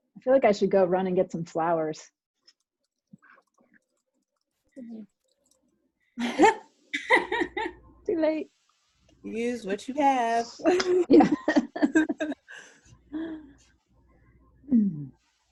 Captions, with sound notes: I feel like I should go run and get some flowers. (laughing loudly) Too late. Use what you have. (laughs softly)